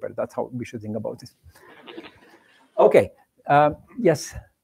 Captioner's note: laughter